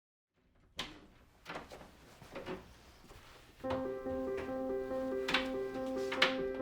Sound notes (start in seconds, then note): 1.1 door opening; 3.6 piano music